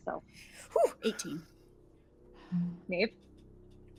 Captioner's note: gasps